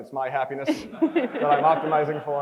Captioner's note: crowd chuckles